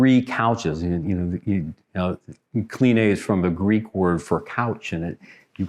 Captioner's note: foreign language